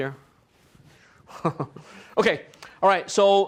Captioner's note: laughs